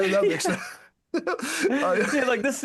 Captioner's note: laughing